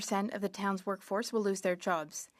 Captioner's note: speaking French